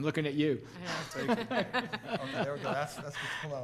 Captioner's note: laughing